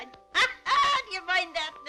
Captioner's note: laughing